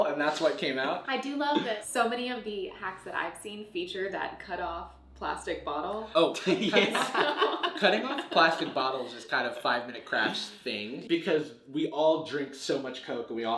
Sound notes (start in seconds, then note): 6.3 laughs